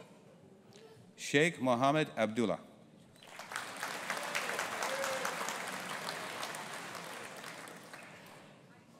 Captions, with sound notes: Sheikh Mohammad Abdullah. (AUDIENCE APPLAUDING)